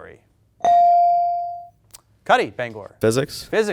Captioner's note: bell dings